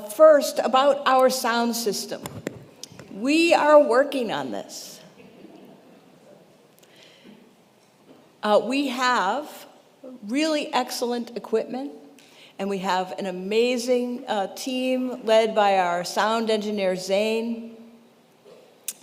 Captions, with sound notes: First about our sound system, we are working on this. (congregation chuckles) We have really excellent equipment and we have an amazing team led by our sound engineer Zane.